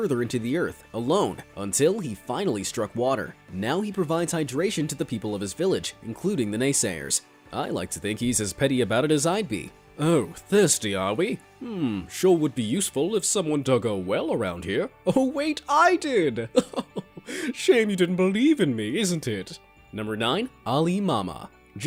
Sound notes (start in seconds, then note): 16.5 chuckles